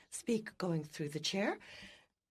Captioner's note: speaking French